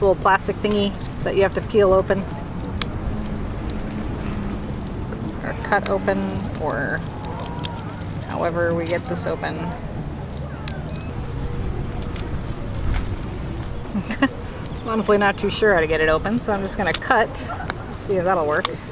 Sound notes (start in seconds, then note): 2.7 clicking; 9.7 laughing; 10.3 crinkling